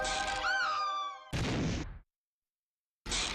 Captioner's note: woman screams